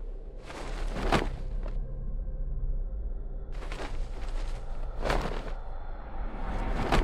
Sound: tense music; fabric rustling

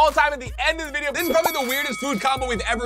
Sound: bell dinging

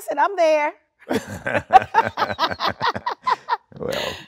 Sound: both laughing

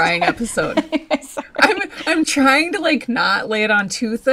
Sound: laughs

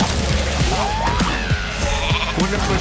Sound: pilot shrieks; sheep bleats

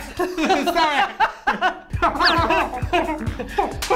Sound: laughter

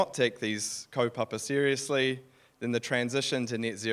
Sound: speaking in foreign language

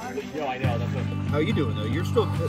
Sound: crowd chattering

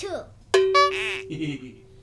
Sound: cowbell dings; horn honks; Boink laughs

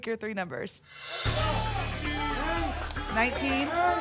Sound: audience shouting numbers

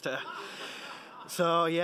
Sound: laughing

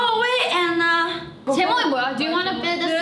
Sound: speaking in Korean

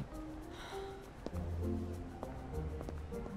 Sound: sighs

